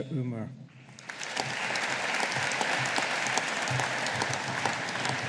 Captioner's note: audience applauding